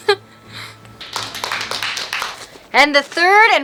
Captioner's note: applause